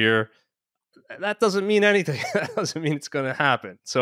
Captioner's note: chuckles